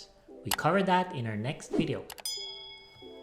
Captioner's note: dinging